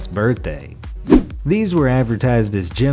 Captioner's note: air whooshes